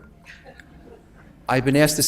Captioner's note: audience laughs